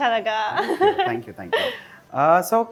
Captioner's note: chuckles